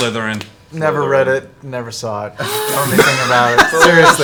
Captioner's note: gasps